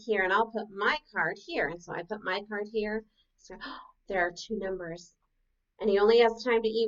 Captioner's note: gasp